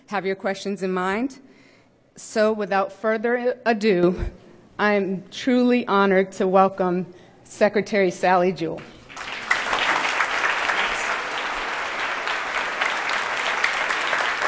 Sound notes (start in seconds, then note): 10.9 applause